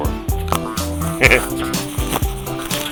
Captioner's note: laughing